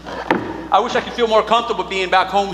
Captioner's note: boots thudding